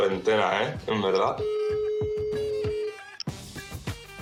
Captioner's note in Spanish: Tono de llamada